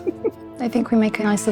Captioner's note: players chuckling